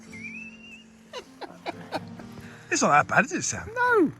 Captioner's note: interviewer laughing